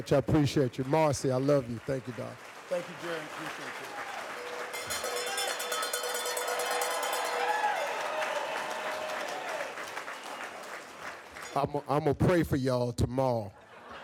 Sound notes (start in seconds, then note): 4.3 rings bell; 4.4 crowd cheers